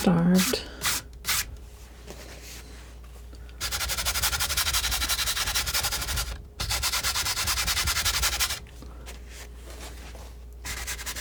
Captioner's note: scratching